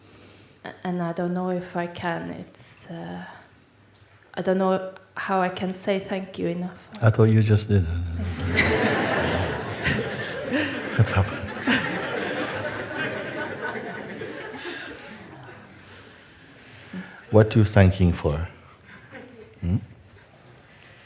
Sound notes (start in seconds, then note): 10.0 laughter; 12.5 laughter